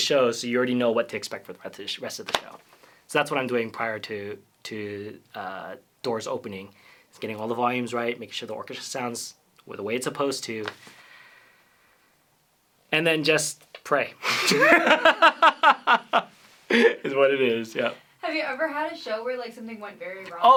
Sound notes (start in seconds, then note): 14.2 laughter